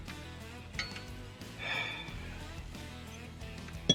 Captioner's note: exasperated sigh